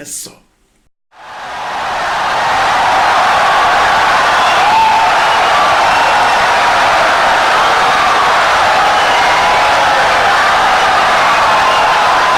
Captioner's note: wild applause and cheering for 17 seconds